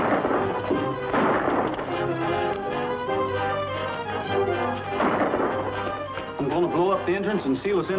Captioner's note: gunshots